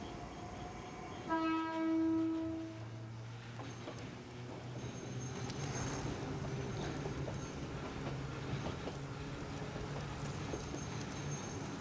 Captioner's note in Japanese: 警笛